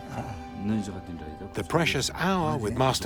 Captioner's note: both laugh; speaking Tibetan